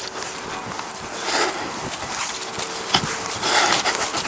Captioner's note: he breathes heavily